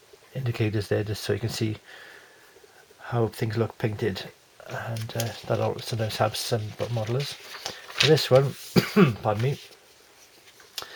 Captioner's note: cough